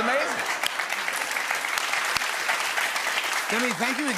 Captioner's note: cheers and applause